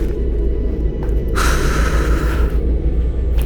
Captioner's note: sigh